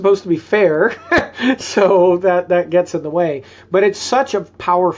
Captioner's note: chuckles